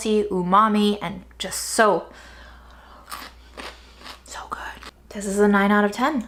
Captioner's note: cucumber crunching